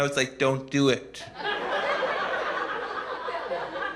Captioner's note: laughter